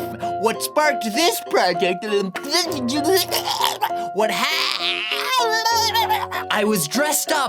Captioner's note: barfy pukey; goblin noises